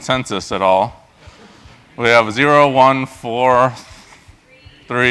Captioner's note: laugh